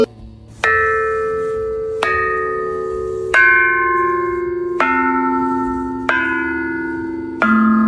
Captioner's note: AUDIO: The bell tone slowly decays